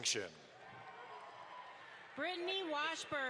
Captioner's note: audience applauds